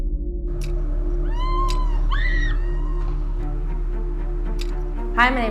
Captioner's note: intense music; screams